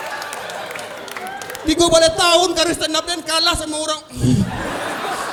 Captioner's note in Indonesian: berdehem